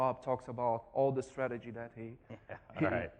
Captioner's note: laughs